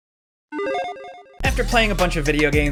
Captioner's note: electronic chiming